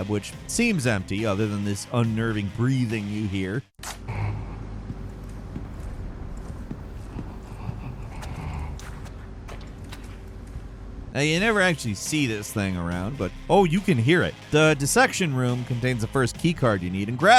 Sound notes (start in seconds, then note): 5.4 deep breathing